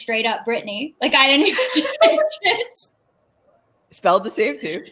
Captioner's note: laughing